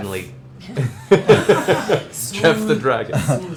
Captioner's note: laughter